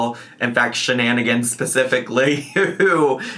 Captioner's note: laughs